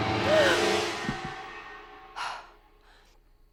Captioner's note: dramatic music; gasps